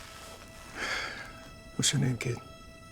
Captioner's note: sighs